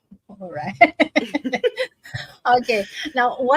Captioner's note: laughs